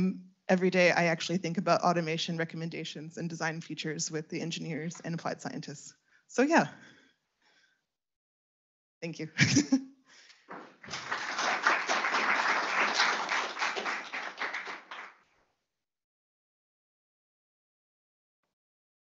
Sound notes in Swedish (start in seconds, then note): 10.5 Applåder